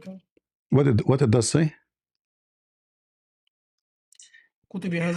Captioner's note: Arabic